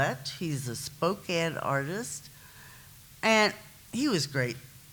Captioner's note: none